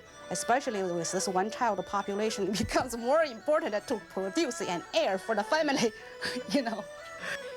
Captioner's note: laughing